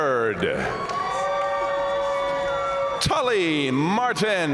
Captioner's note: audience cheering and applauding